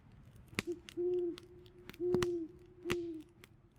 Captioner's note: owl